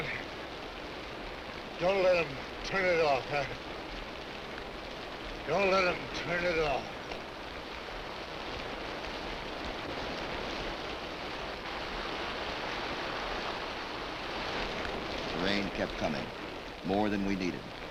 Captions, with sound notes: - Hey, Quent, don't let 'em turn it off. (chuckles) Don't let 'em turn it off. (rain pattering) - The rain kept coming, more than we needed.